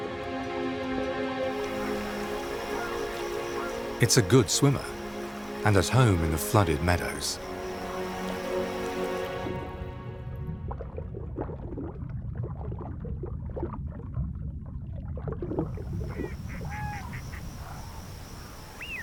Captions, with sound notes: It's good swimmer and is home in the flooded meadows. (gentle music) (water sloshes)